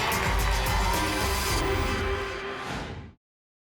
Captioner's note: whoosh